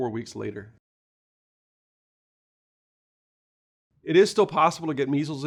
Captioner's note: no audio